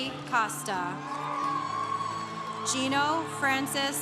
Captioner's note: congregation cheering